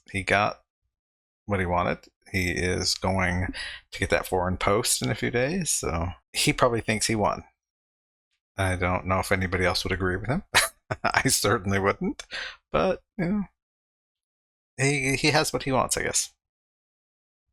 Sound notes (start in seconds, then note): 10.5 laughing